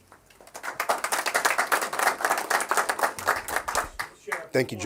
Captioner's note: applause